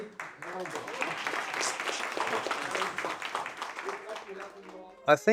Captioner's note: applause